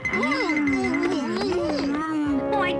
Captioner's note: muffled cries